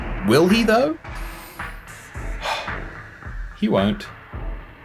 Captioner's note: sharp inhale, annoyed sigh